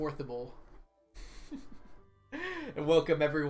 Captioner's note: chuckles